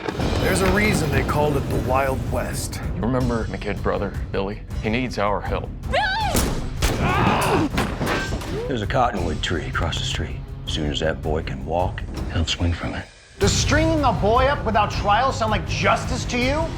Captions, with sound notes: BAT, V/O: THERE'S A REASON THEY CALLED IT THE WILD WEST. REMEMBER MY KID BROTHER, BILLY? HE NEEDS OUR HELP. BILLY! [GUNSHOT] AH! [GUNSHOT] THERE'S A COTTONWOOD TREE ACROSS THE STREET. SOON AS THAT BOY CAN WALK- HE'LL SWING FROM IT. DOES STRINGING A BOY UP WITHOUT TRIAL SOUND LIKE JUSTICE TO YOU?